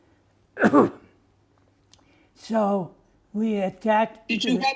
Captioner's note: coughing